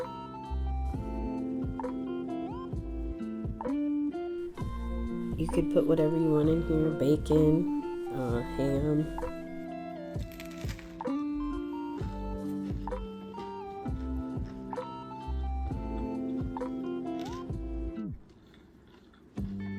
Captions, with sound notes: You could put what ever you want: bacon, uh... ham... (crunching)